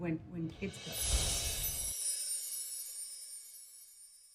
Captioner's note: chimes